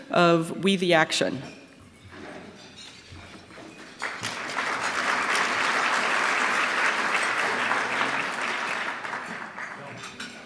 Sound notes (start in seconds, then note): 3.8 applause